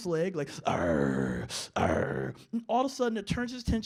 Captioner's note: growling